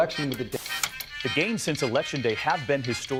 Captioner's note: static buzzes